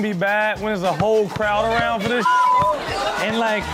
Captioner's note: beep